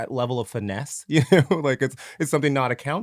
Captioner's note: laughs